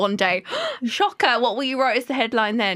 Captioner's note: gasps